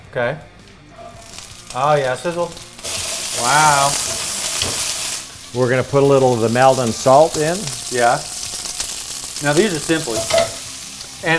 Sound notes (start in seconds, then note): 2.6 peppers sizzling